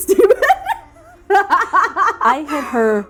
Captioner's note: laughing